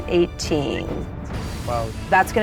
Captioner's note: whistles